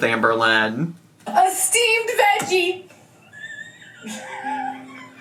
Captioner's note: laughs